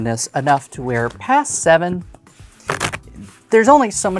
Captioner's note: cards riffling